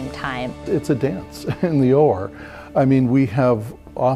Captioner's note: chuckles